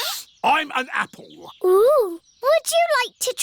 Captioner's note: sniffs